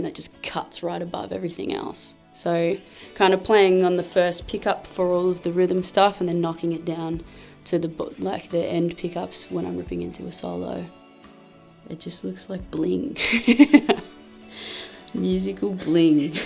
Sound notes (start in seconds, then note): 13.2 laughs